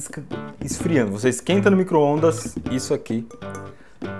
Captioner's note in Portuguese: barulho de batidas no vidro